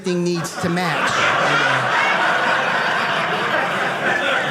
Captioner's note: audience laughing